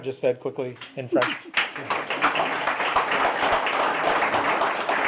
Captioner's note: applause